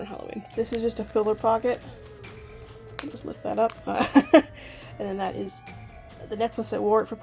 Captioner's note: laughs